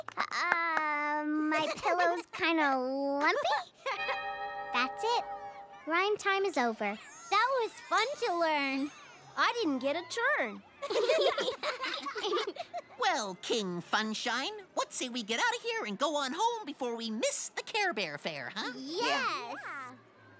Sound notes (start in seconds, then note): 3.9 chime; 10.9 giggle